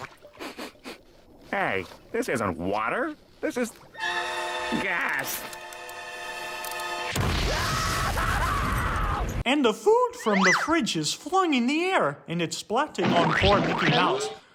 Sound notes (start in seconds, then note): 0.3 sniffs; 7.2 boom!; 7.4 screaming